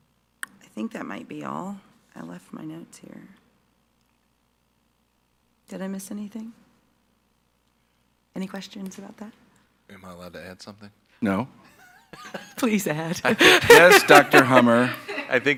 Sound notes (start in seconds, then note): 13.2 laughs